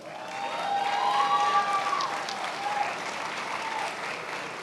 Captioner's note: attendees applauding